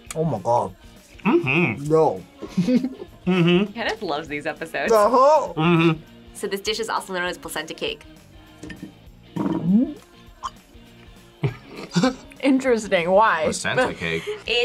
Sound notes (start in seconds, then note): 2.4 laughs; 9.3 gulps; 11.4 both laugh